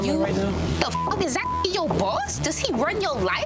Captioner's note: beep